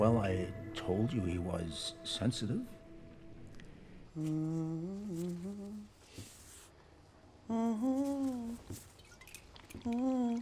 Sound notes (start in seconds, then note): 4.1 humming